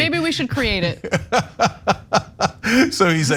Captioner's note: laugh